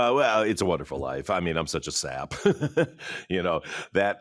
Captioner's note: chuckles